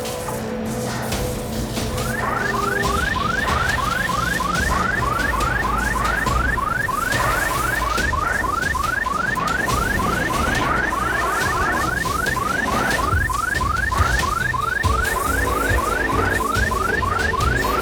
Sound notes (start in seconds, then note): 2.0 alarm blaring